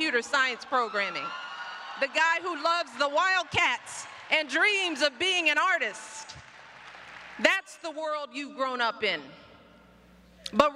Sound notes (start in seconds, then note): 6.1 applause